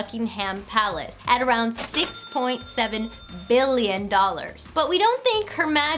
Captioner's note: cha-chinging